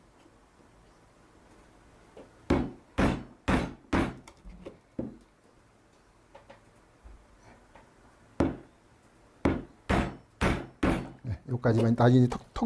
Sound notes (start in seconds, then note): 2.5 hammering sound